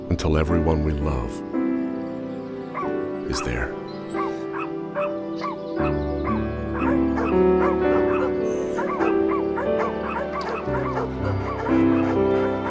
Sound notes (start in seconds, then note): 3.8 dogs barking; 4.3 whines; 7.5 dogs barking; 7.5 gentle music